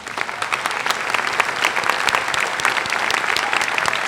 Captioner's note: applause